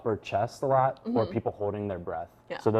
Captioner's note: sighing